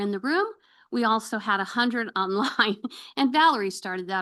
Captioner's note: chuckles